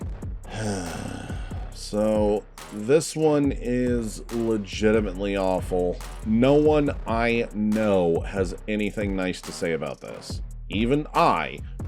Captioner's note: sigh